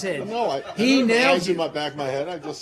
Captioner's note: laughter